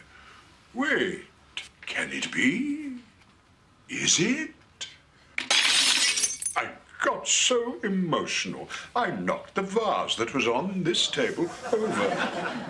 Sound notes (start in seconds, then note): 5.4 sound effect of breaking glass